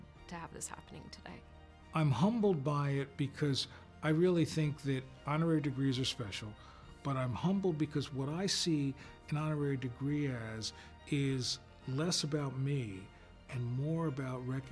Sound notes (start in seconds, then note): none